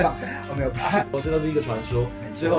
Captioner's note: laughs